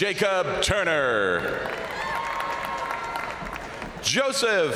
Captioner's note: crowd applauding; crowd cheering